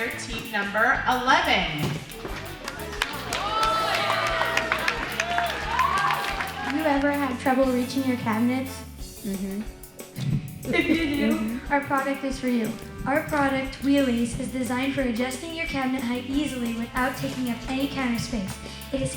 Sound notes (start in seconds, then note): 2.1 all applaud and cheer